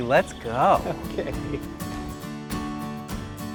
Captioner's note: laughs